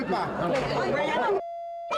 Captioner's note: shouting continues